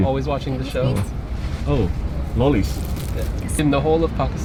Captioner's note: air hostess speaks faintly